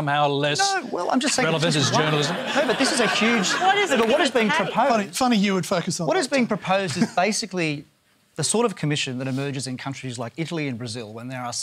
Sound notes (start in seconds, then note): 1.4 laughter